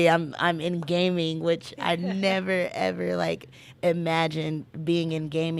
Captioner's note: laughing